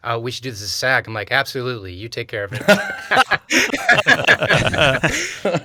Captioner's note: laughs